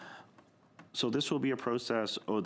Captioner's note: speaking French